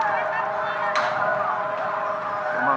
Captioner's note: seismic alarm